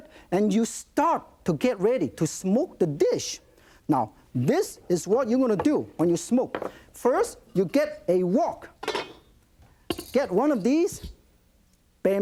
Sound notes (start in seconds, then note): none